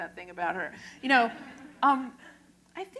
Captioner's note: laughter